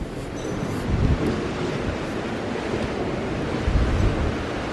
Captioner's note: water surges